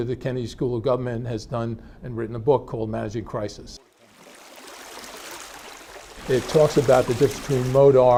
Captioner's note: water splashing